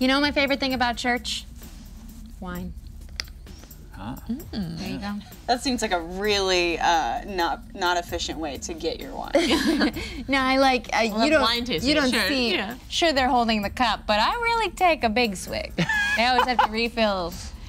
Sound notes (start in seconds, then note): 9.3 group laughing; 15.8 Nox laughing